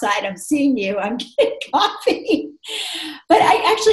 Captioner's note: laughs